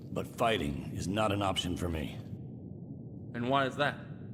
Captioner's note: none